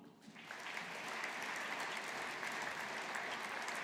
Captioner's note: audience applauding